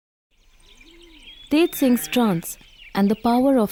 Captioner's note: birds chirpping; goat bleat